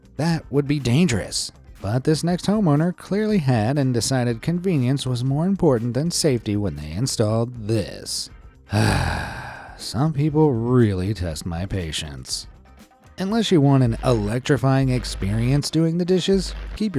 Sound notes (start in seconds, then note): 8.7 sighs